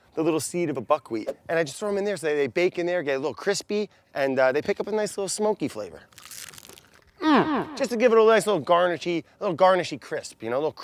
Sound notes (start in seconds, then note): 6.0 crunching